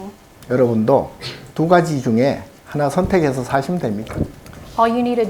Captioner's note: speaking Korean